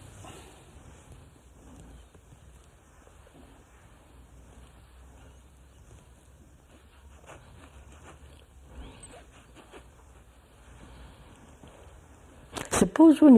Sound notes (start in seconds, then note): 2.6 laughs